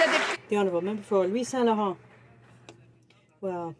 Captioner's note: some Applause